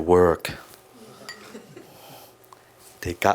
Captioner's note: some of audience laugh